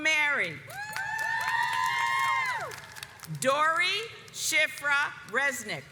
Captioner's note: audience cheers